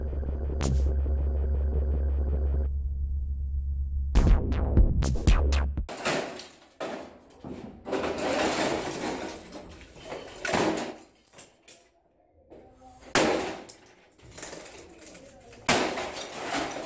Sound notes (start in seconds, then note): 0.0 techno; 8.0 clattering; 12.9 whacking & clattering